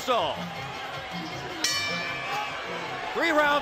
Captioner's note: bell dings